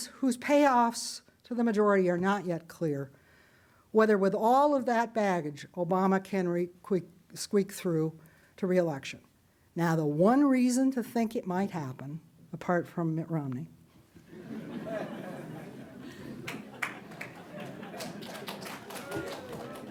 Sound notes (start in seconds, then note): 14.2 audience laughing; 16.7 audience clapping